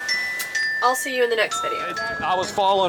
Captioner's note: phone Ringing